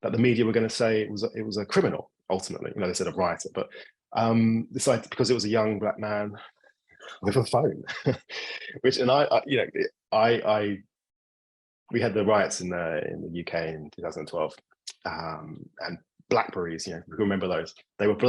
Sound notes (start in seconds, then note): 7.1 laughing